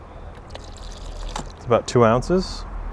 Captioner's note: squirts